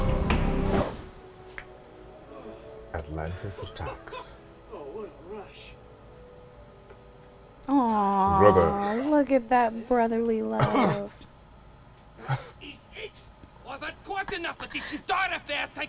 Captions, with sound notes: -Atlantis attacks. -Oh, what a rush. -Aww. Look at that brotherly love. -Brother! [coughs] -That is it! -[laughs]